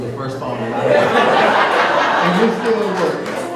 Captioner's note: laughter